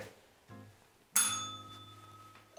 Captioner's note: bell rings